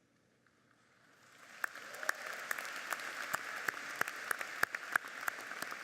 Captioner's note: audience applauds